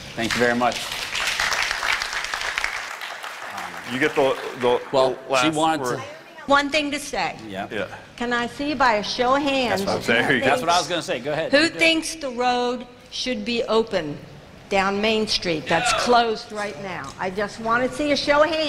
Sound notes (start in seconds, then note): 0.1 applause